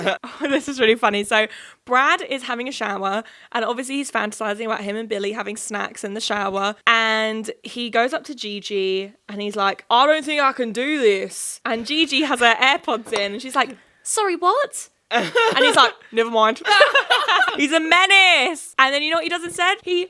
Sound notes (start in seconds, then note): 16.6 laughing